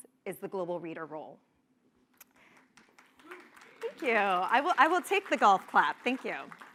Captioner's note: applause